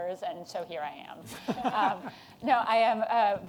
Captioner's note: laughter